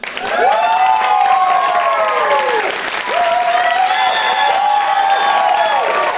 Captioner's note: applause